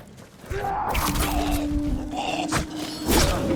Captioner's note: grunting